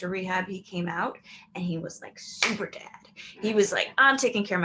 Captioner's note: claps hands